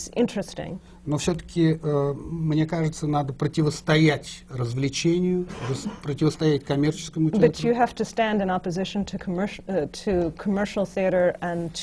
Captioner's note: foreign language not transcribed